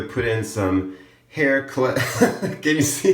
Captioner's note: laughs